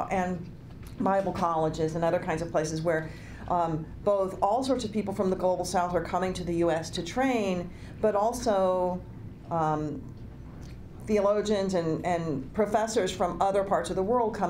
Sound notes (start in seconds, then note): none